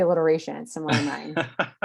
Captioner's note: laughing